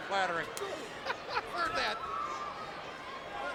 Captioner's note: laughs